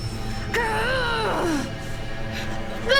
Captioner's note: grunting